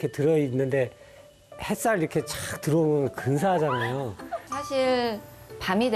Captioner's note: hahahahahahaha